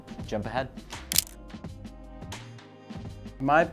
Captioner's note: camera shutter clicks